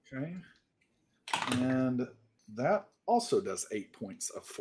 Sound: dice clacking

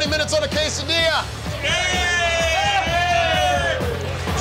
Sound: cheers

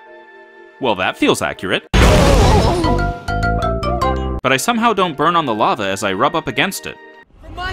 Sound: Super Mario Galaxy dying sound

